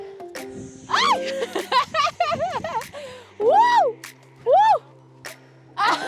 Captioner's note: laughs